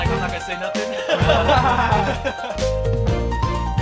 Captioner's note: laughter